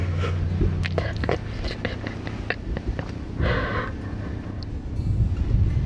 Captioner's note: giggling